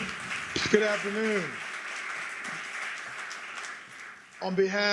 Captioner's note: applause